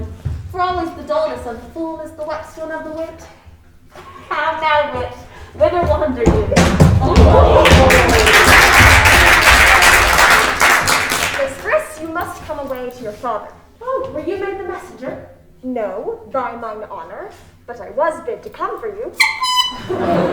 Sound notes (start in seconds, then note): 7.0 crowd applauding; 19.1 tooting